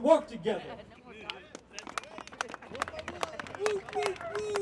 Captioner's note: audience applauds